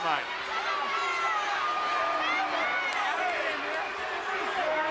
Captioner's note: audience clamoring